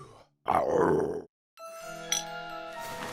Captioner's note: growl; intriguing music